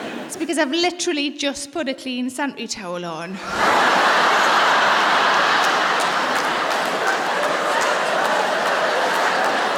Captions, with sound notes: It's because I've literally just put a clean sanitary towel on. (LAUGHTER) (APPLAUSE)